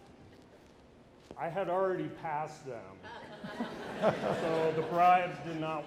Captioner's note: audience laughing